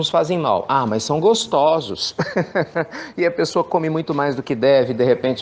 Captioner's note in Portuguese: risos